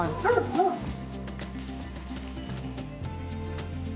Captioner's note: speaks in foreign language; dog barking